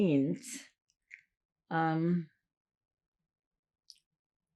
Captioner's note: pauses 6 seconds